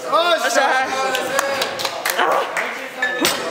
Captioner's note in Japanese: 拍手